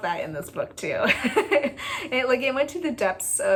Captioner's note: laugh